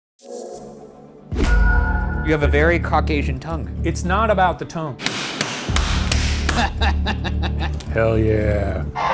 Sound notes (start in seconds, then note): 5.0 dough slapping; 6.4 laughing